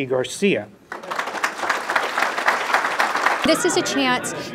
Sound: applause

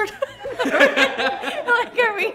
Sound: all laughing

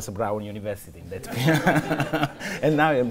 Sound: laughter

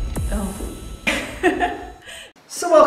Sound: laughter

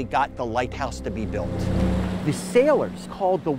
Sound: waves crash

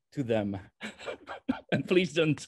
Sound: laughs

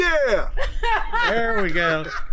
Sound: laughing

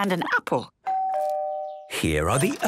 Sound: doorbell rings

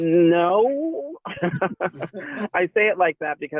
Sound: chuckling

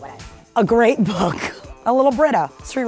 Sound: laughs

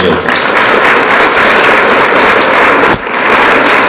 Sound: audience applauds

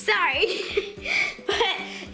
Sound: laughing

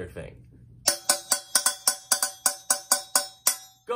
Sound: bangs on sauce pan

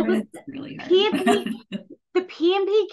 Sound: audio cutting out

